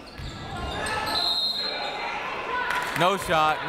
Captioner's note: whistle